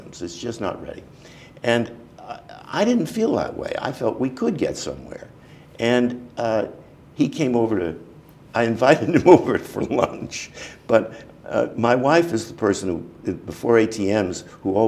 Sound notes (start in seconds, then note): 10.4 chuckle